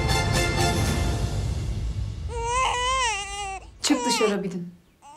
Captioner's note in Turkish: Bebek ağlama sesi